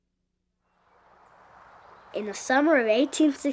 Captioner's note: wind whooshing